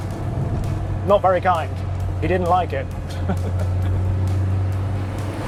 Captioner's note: laughs